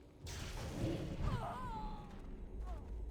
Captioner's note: groaning